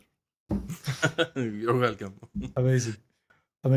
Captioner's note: laugh